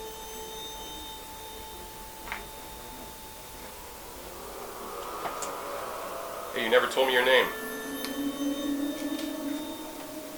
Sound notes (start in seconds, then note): none